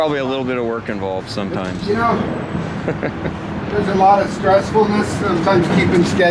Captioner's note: chuckling